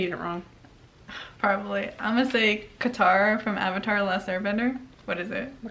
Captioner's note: sighs